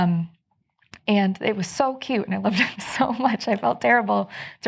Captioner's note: chuckles